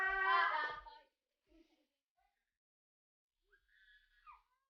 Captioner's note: laughing